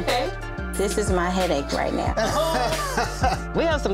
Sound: both laughing

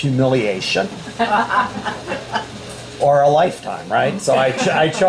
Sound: laughter

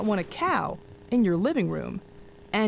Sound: none

